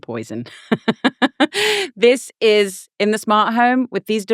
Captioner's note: laughing